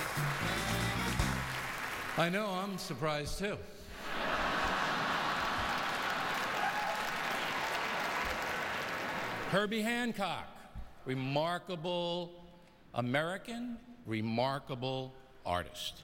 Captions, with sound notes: (music fades) I know-- I'm surprised, too. (laughter, applause) Herbie Hancock. Remarkable American.